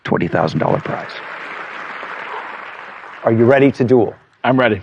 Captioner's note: applause